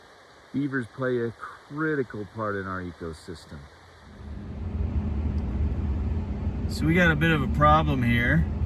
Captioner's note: engine noise